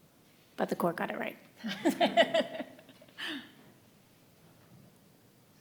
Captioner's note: chuckling